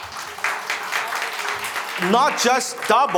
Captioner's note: crowd applauding